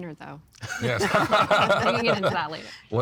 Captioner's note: laughing